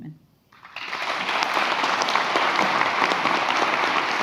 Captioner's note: audience applauds